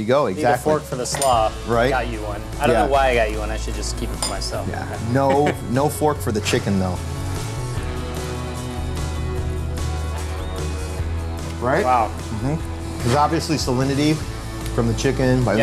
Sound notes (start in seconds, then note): 5.1 haha; 7.1 upbeat music